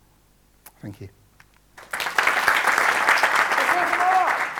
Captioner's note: applause